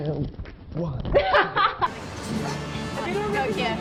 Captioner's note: laughing